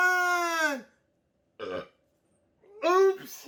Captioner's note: burping